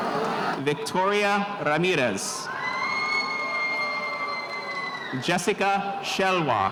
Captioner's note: spectators cheering